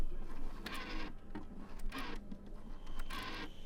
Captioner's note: rotary phone dialing